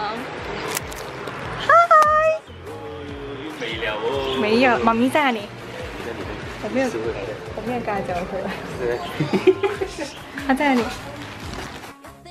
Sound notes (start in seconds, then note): 9.0 giggles